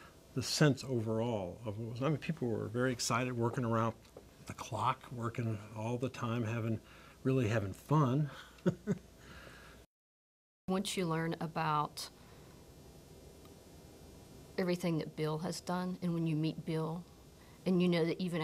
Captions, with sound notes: That was what was the sense overall. I mean, people were very excited, working around the clock, working all the time, really having fun. [chuckles] Once you learn about everything that Bill has done, and when you meet Bill,